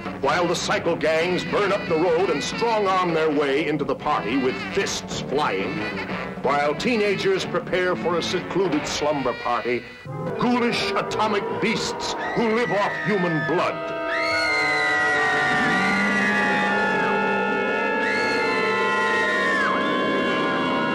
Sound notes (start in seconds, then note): 13.9 screaming